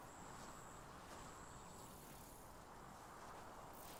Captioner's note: wind rustling